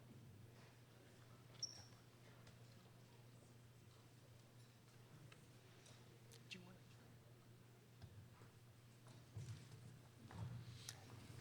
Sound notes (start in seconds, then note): none